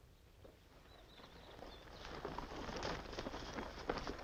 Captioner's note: birds chirping